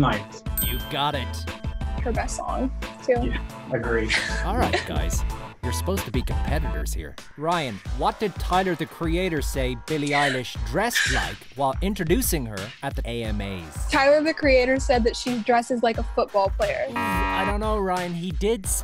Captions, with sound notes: - Her best song too. - Yeah, agree. - All right guys. You're supposed to be competitors here. Ryan, what did Tyler, the Creator say Billie Eilish dressed like while introducing her at the AMAs? - Tyler, the creator said that she dresses like a football player. (buzzer buzzes) - I don't know Ryan. He did specifically say quarterback.